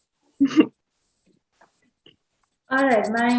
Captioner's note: laughs